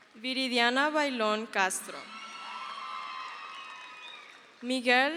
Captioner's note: crowd cheers